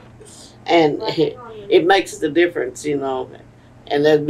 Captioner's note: laughs